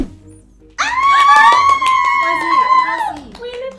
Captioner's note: screaming